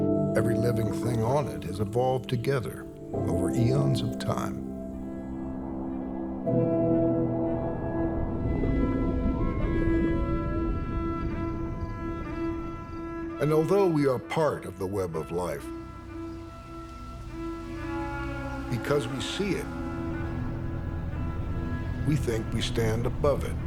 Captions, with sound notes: Every living thing on it has evolved together, over eons of time. [whale sings] And although we are part of the web of life, because we see it, we think we stand above it.